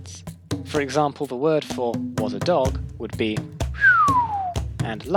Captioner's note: whistles